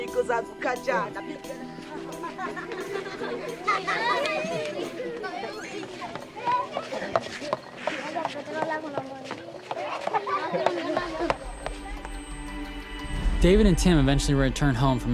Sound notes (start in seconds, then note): 0.1 speaking in foreign language; 1.8 laughing; 10.8 speaking in foreign language; 12.9 uplifting music